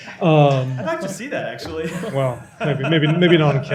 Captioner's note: laughter